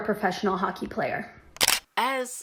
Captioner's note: camera shutter